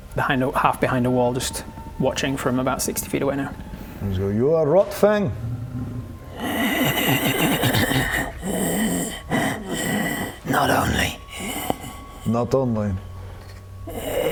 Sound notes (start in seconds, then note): 6.2 creepiest laugh ever; 8.4 unfortunate breathing sounds